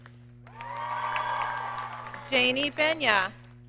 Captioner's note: audience cheers and applauds